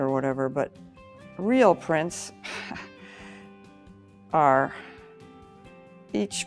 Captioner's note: chuckles